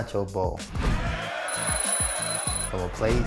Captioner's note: crowd cheers; alarm rings